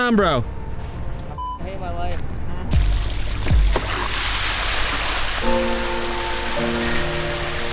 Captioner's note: beep